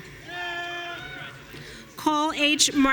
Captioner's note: audience cheering